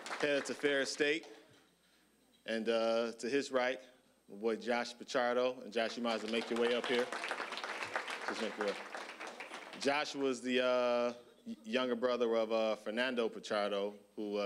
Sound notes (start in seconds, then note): 7.4 applause